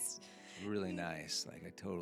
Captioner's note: laughing